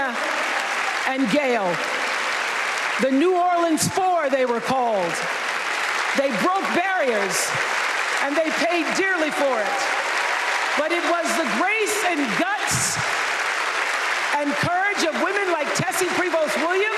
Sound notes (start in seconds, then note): 2.4 applause